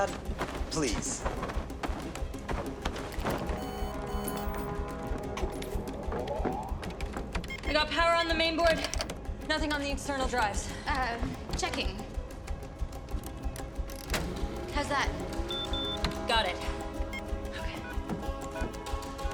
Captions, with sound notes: Dad, please. (computers beeping) (equipment humming) I got power on the main board. Nothing on the external drives. Um, checking. - (whirring) - How's that? - (beeping) - Got it. Okay.